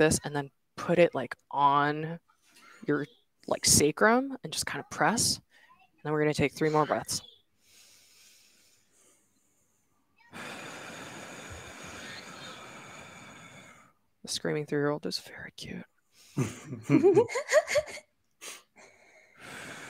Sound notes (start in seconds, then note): 7.6 all inhaling; 10.3 exhaling; 16.4 chuckle